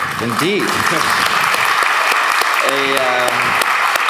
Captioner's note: applauds